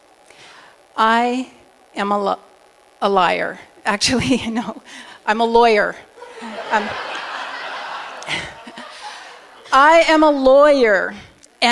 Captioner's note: laughter